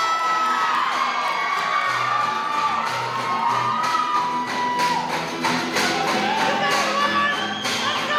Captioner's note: applause